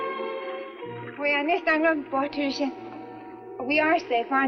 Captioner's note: Ann speaks Swedish